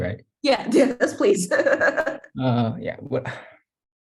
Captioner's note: laugh